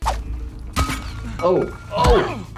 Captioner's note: gun shot